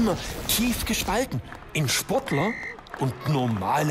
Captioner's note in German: Applaus